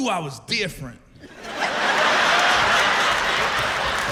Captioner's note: laughter